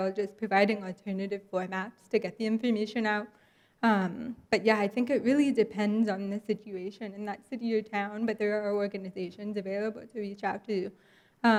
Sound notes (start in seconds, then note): none